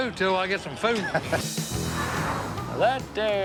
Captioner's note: upbeat music; vehicle whooshing